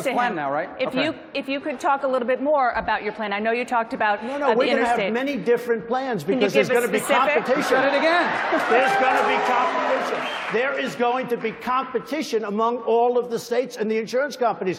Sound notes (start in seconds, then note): 10.3 cheering; 10.7 applause